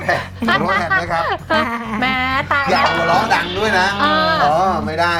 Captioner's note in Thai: หัวเราะ